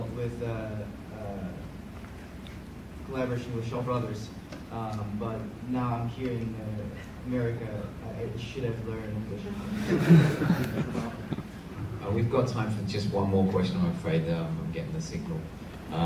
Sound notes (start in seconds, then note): 9.7 crowd laughing